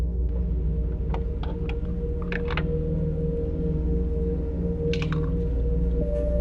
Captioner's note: fuel tank door clattering